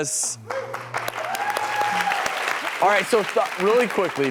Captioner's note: applause